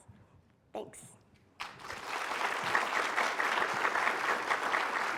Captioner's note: applause